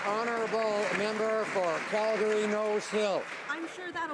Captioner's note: some Applause